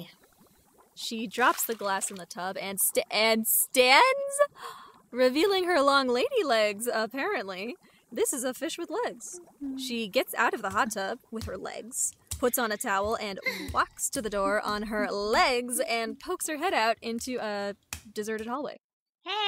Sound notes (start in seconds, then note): 0.9 a dejected sploosh; 4.5 gasp